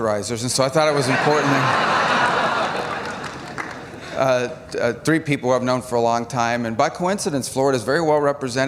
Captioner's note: laughter